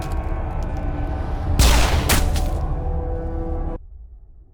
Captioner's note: bang